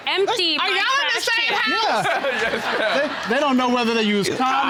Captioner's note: all laughing